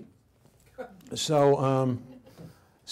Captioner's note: audience laughs